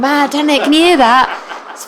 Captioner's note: laughter